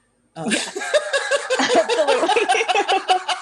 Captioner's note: laughter